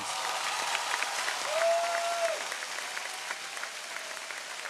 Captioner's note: audience cheering